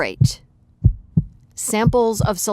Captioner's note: heart beating